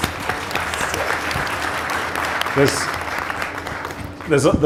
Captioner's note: audience applause